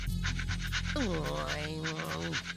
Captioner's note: grumbling